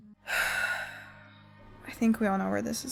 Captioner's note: sigh